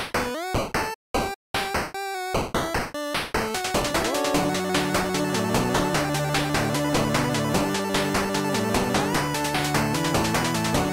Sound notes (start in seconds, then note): none